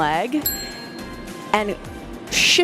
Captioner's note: bell dinging